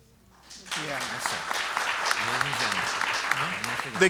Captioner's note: applause